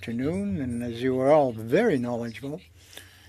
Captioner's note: speaking French